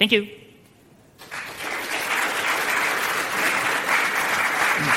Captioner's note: applause